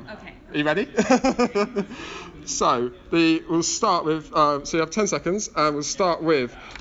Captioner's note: laughs